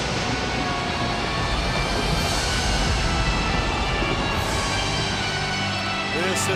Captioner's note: ominous music continues; audience cheers